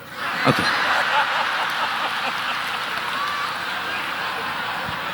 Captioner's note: audience laughing